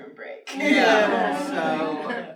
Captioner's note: everyone laughs